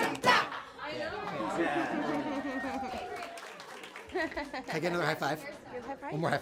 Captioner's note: laughing, cheering